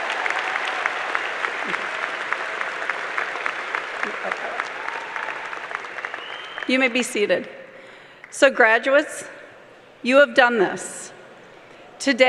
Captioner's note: applause